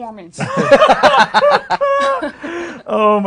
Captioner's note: others laughing